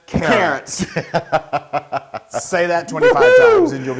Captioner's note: laugh